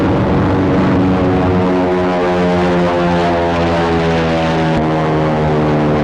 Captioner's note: plane flying